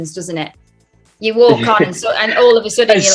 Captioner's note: Ncuti laughs